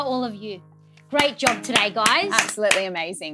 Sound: clapping

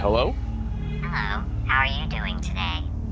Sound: phone distorted voice

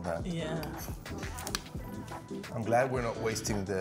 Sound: upbeat music; singer humming

